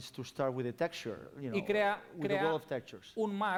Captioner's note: non-english speech